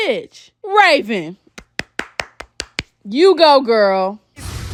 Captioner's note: starts clapping